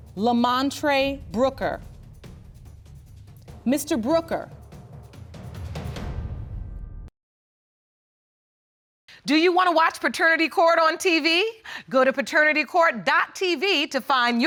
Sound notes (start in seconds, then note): none